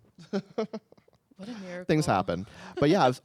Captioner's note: laughs